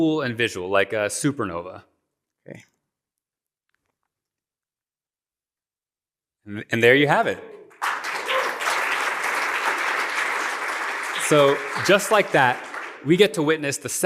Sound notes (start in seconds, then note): 7.7 applause